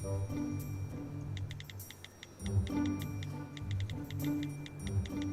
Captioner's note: playful music; keys clicking